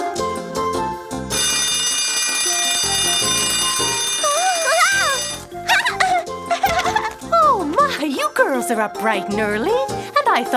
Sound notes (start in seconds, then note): 1.3 alarm clock rings